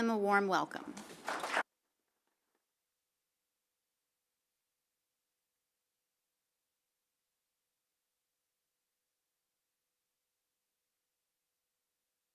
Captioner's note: silence